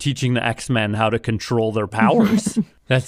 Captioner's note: laughs